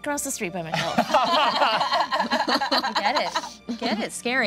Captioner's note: all laughing